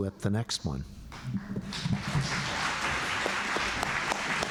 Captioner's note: applause